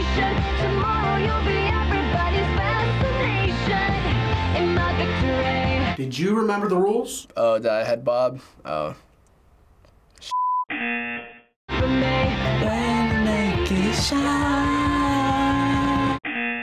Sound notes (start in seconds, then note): 10.2 buzzer; 11.5 singing along; 16.3 buzzer